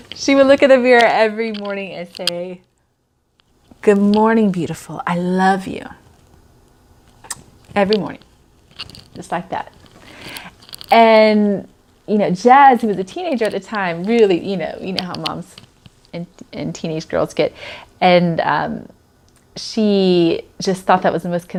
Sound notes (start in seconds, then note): 7.2 kissing